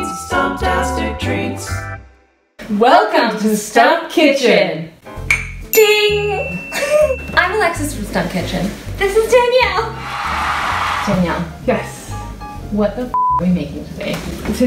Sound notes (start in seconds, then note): 5.3 mugs clink